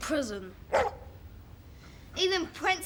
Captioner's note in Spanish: perro ladrando